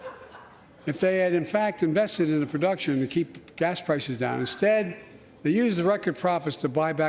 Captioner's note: laughter